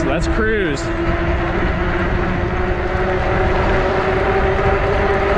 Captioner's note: wheels whirring